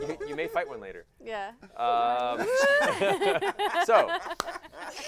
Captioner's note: laughter